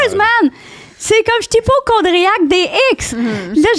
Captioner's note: in french